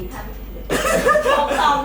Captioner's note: laugh